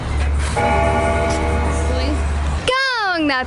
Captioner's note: bell ringing